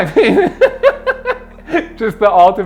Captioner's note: laughs